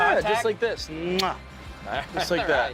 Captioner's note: kisses